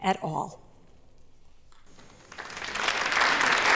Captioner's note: applause